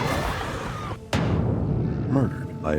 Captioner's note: growling, screaming